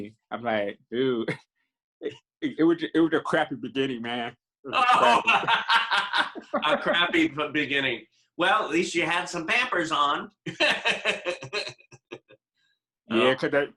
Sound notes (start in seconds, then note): 4.7 laughing; 10.4 laughing